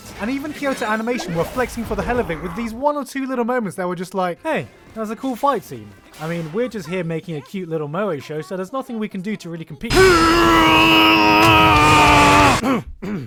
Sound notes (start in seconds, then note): 9.9 intense grunting noises; 12.6 clearing throat